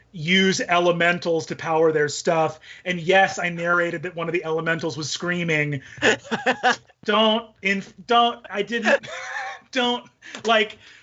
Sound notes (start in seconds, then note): 6.0 all laughing